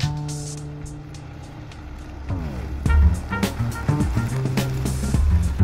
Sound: car engine roars

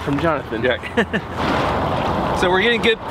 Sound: laughs

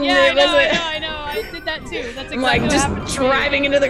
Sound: laugh

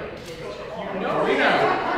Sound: camera clicks

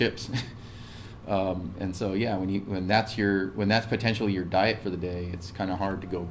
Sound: laugh

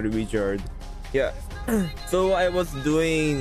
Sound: clears throat

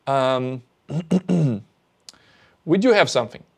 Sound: clears throat

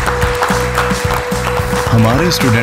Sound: thunderous applause

